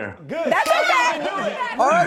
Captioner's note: crowd talks over each other